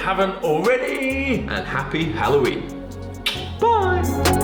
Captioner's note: tongue clicks